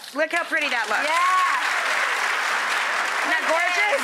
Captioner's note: audience applause and cheers